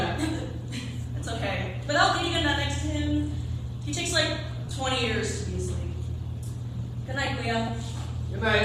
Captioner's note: chuckles